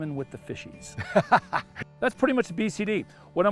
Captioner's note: laughter